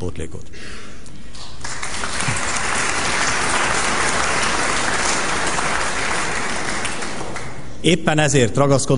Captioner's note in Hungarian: Taps a kormánypárti padsorokban